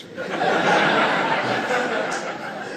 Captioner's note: laughter